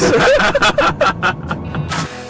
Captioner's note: laughter